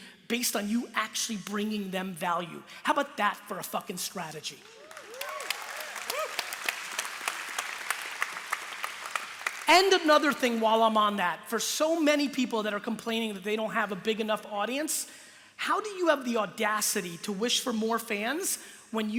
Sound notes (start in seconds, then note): 4.6 applause